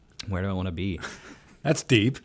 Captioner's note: laughs; chuckles